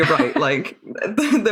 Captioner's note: laughs